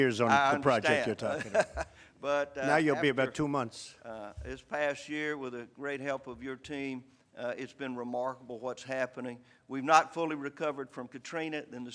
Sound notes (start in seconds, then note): 1.2 laughter